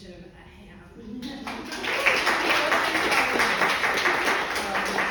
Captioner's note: crowd applauding